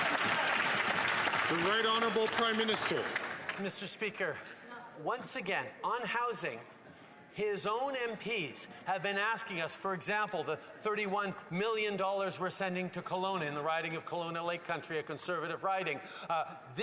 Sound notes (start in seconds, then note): 4.7 applause